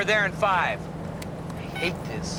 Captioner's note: none